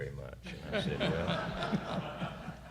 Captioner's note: laughter